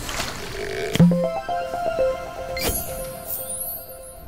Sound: playful chime

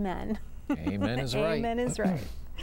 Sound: laughter

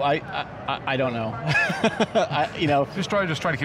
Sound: laughs

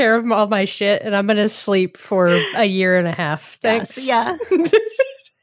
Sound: laughing

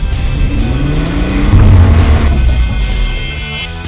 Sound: engine revving

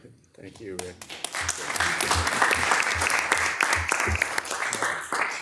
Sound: audience applauding

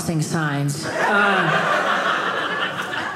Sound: audience laughing

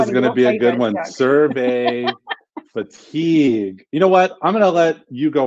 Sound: laughs

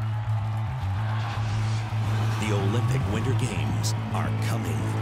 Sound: crowd noise

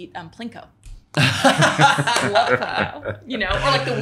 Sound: laughing

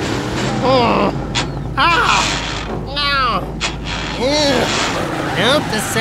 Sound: engine grinding; grunting

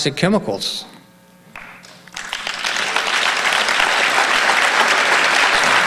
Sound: audience applauding

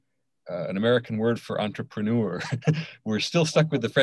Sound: laughs

